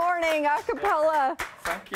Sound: applause

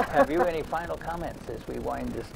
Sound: laughs

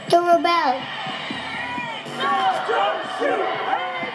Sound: crowd cheers

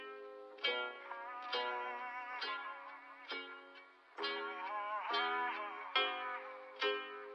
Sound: humming

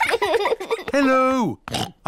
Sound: oinks

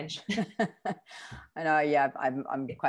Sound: both laughing

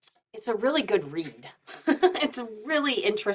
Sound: chuckles

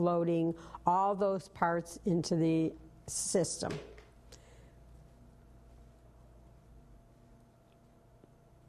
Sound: pause

